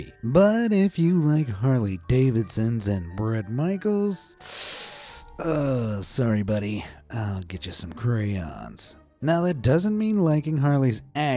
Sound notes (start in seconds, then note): 4.5 wincing